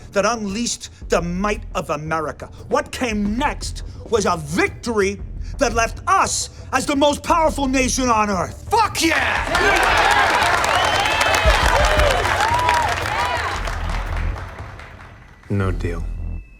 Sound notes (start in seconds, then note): 8.9 all cheering